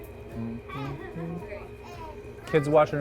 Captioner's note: humming